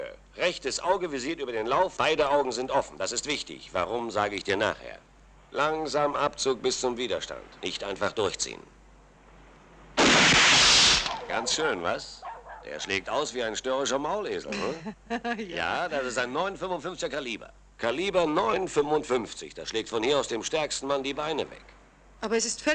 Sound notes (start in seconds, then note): 10.0 gun fires; 14.5 laughs